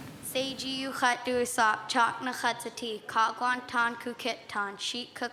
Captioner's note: speaking in Łingít